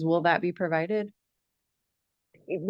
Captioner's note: none